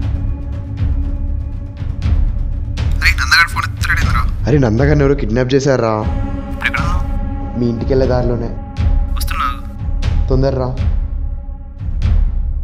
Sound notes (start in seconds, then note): 1.7 on phone